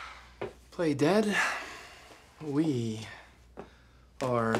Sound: sighing

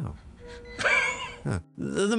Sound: john coughing

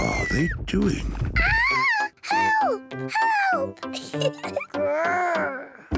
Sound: giggles

